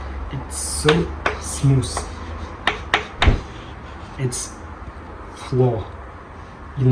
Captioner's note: chalk tapping